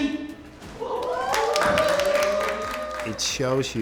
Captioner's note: cheering